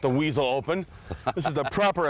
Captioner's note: laugh